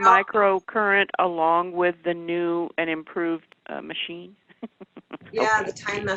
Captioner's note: laughs